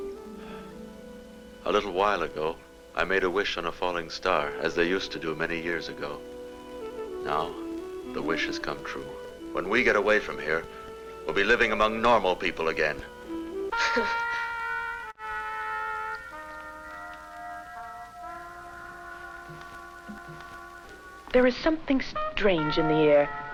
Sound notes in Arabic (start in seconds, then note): 12.5 موسيقى هادئة; 13.8 حواء تضحك